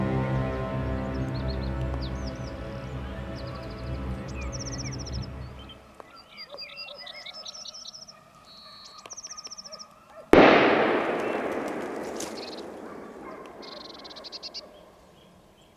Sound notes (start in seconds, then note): 10.3 gunshot; 12.7 dogs barking